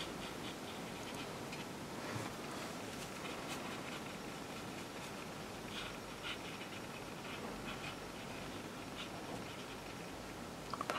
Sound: paintbrush sweeping noises

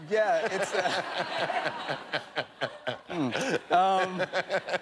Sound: laughter

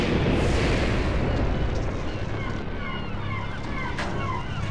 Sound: seagulls cry

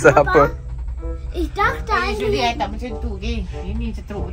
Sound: speaking German

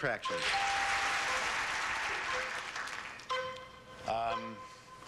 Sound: audience applauding

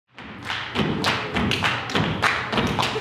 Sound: rhythmic clapping and stomping

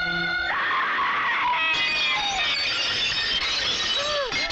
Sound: screams; mirror shatters

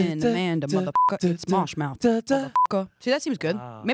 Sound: beep

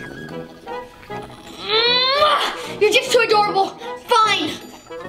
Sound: groaning

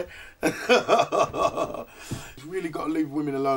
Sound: laughs

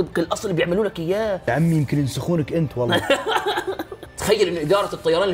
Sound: laughs 😂

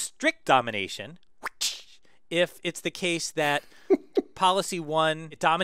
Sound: laugh

